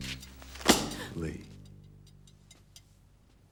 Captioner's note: slam